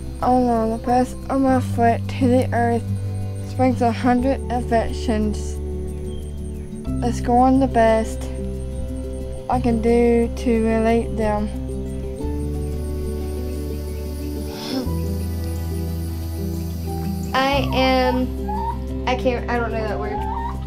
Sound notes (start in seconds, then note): 14.5 laughs lightly